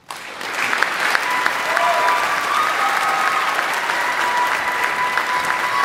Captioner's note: audience applauding; audience cheering